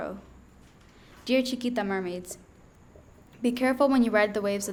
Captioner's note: speaking in foreign language